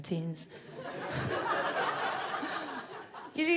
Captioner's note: audience laughs